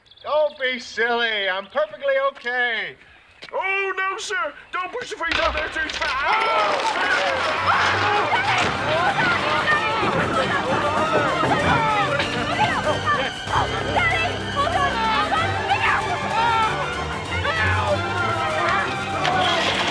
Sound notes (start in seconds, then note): 5.8 screams